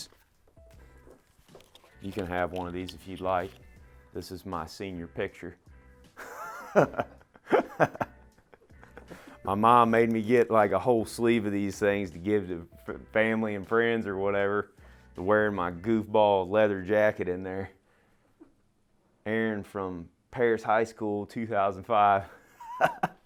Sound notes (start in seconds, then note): 6.2 laughs